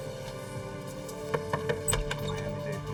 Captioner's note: knock knock